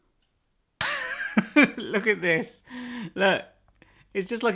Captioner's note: laughs